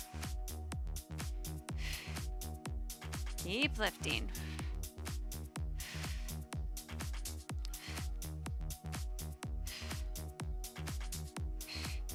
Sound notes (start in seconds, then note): 0.1 upbeat lively music; 5.8 exhaling deeply